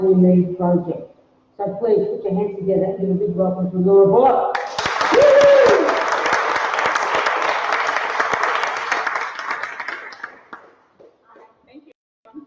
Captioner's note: applause